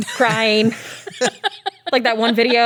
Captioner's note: laughs